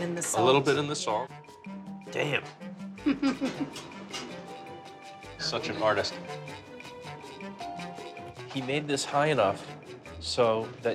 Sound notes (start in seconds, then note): 3.0 chuckles